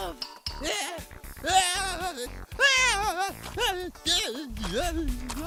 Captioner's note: increasingly-incoherent screams